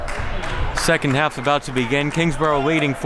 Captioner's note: clapping